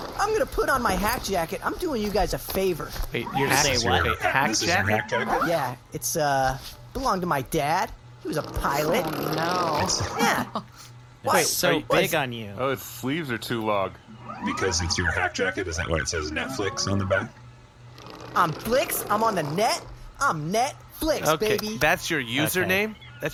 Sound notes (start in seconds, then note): 17.9 Flix’s chair rolls back across the dorm room